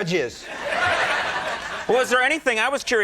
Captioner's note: audience laughing